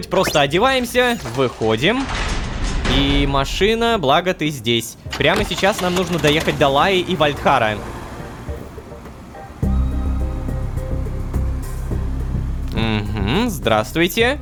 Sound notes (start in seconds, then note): none